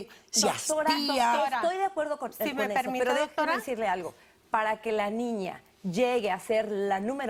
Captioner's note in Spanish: Hablan al unísono